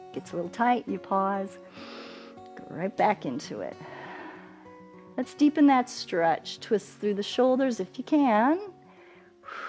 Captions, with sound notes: It gets a little tight, you pause. [inhales] Go right back into it. [exhales] Let's deepen that stretch. Twist through the shoulders if you can.